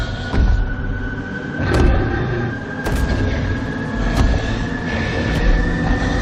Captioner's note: ominous thundering footsteps